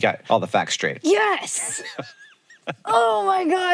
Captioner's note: Hank laughs